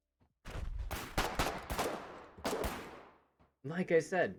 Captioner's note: pistol and rifle fire